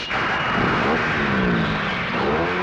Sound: car engine starts

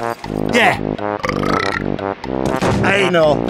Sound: burp From Drunken Man

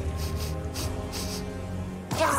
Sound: sniffing

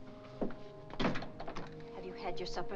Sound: door closes

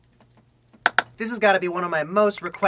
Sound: double clap

